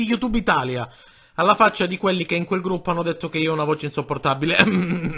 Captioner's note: cough